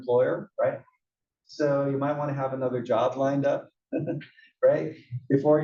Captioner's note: laugh